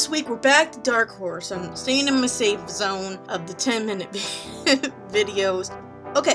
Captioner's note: laughing